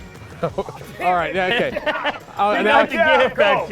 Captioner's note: laughs